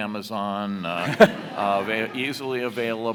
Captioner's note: audience laughs